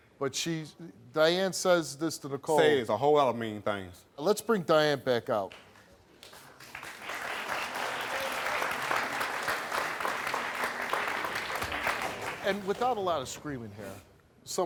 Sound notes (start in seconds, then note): 6.2 applause